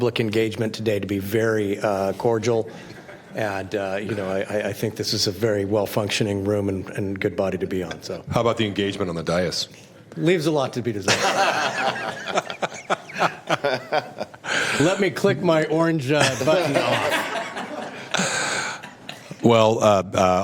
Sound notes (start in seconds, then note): 16.2 laughter